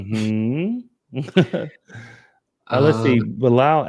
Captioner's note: laughs